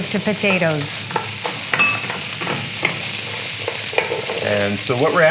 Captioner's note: sizzling